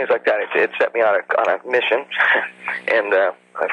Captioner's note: chuckles